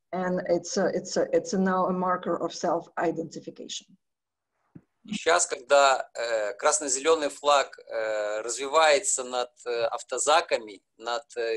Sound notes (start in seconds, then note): 5.3 speaking foreign language